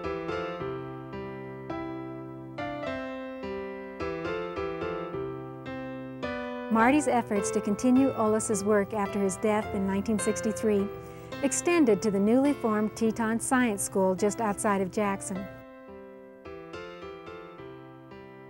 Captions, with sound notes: - [Voiceover] Mardy's efforts to continue Olaus's work after his death in 1963, extended to the newly formed Teton Science School just outside of Jackson. (gentle music)